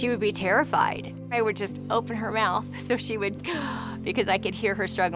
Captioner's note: gasp